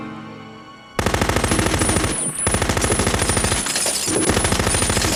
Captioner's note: machine gun firing